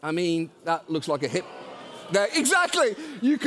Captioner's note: audience groans